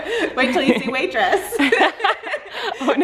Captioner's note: laughing